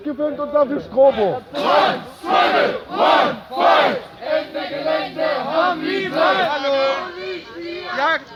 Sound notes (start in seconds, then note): 1.4 people chanting against police